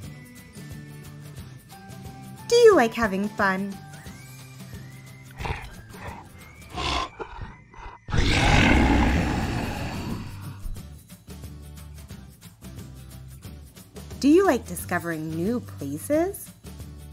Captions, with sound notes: Do you like having fun? (DINORSAUR GRUNTING AND ROARING SOUNDS) Do you like discovering new places ?